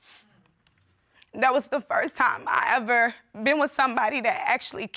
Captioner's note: voice breaks